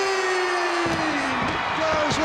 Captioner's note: fireworks exploding